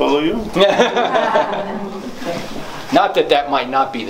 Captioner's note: laughter